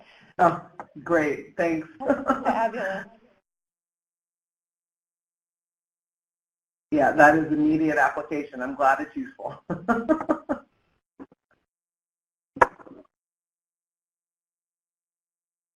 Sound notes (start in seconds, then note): 9.9 laughs